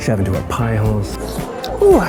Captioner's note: slurp